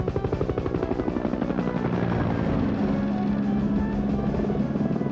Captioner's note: suspenseful music; rotors whirring